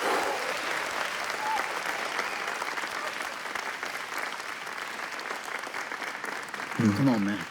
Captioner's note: exhale; audience clapping